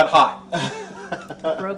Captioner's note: audience laughs